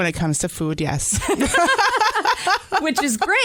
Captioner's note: laughter